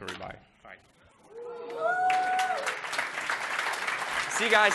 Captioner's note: applause